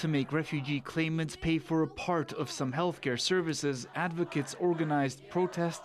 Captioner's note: chanting